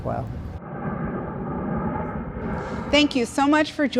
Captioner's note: planes roaring